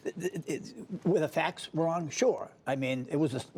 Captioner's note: laughter